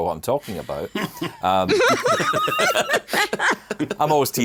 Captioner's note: all laughing